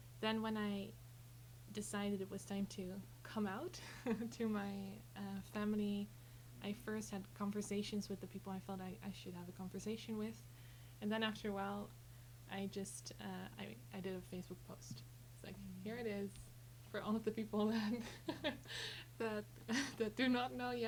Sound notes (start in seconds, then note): 17.8 chuckles